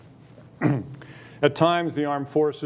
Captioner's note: clears throat